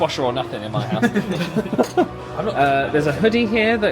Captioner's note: men laugh